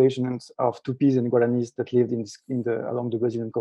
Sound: speaking in foreign language

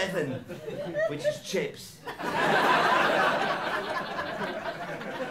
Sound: laughter

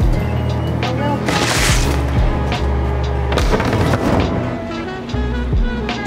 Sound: bagels scraping; gentle jazz music

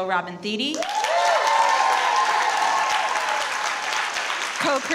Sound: audience applauds

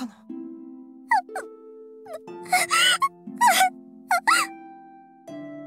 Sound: tears

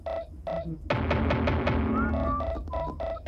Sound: <i> drumming</i>; <i> hollow thumping</i>; <i> drumming</i>

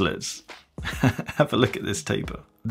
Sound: chuckles

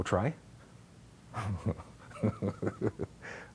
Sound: laughing

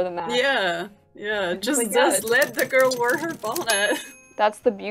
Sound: laughs

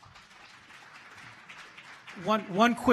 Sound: applause

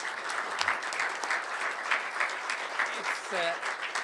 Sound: applause

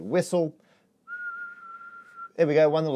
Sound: whistling

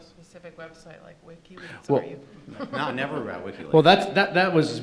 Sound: laughing

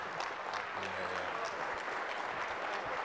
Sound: applause

